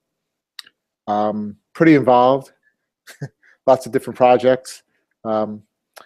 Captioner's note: laugh